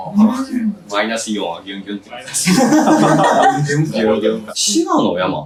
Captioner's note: laughs